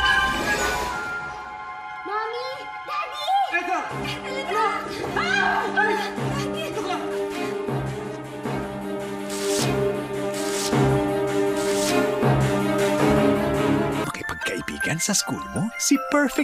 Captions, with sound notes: Mommy! Daddy! Ethel, my child! [witch screams] -Daddy. -Stay here. HANSEL AND GRETEL AND ETHEL